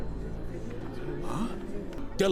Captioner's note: crowd mumuring